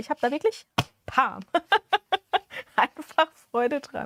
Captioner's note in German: Gelächter